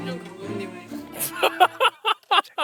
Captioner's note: laughing